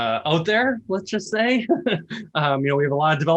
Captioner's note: laughs